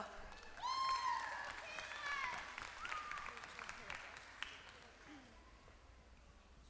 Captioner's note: applause